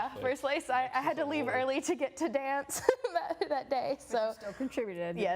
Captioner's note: laughing